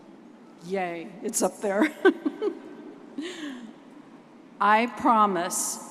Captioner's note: giggles